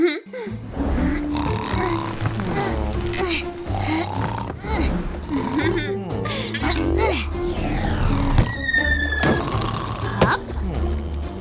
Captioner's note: groans